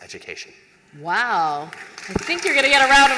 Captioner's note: applause